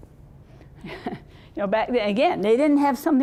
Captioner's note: chuckling